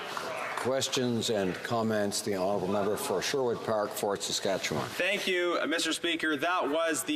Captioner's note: applause